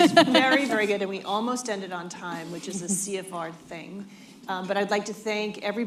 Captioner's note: laughter